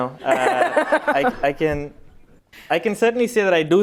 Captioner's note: laughter